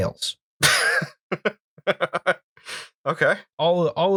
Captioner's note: laughter